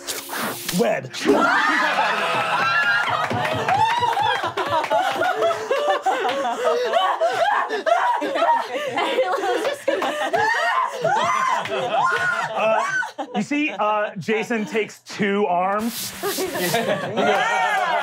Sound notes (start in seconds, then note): 0.0 web flinging; 1.2 players screaming; 2.9 cheering and clapping; 5.2 gasping; 11.9 screaming; 15.8 swiping